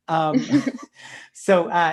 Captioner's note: both laughing